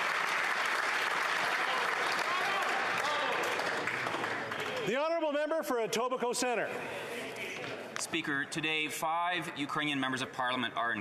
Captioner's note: applause